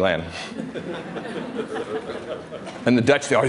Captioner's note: laughter